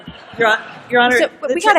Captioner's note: laughter